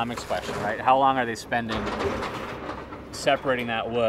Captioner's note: machine clanks